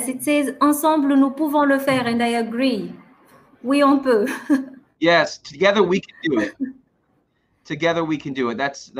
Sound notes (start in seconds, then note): 0.9 french; 3.2 speaking french